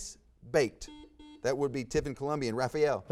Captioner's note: buzzer buzzes